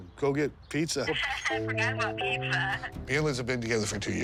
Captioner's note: laughs